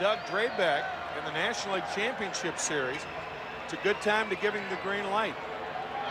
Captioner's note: applause